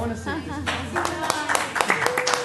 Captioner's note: applause